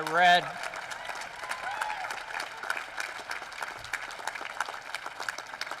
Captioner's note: applause